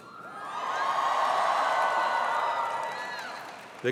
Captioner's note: cheering